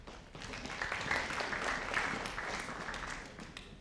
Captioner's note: audience applauding